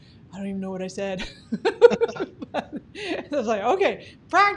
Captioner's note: laughing